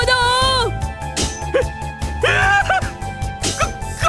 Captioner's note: terrified